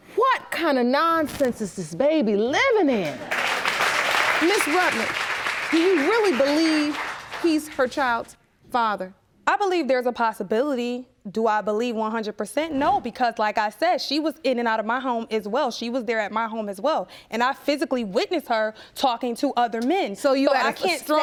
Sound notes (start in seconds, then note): 3.0 applause